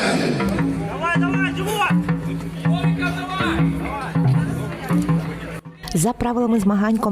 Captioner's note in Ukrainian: вигуки вболівальників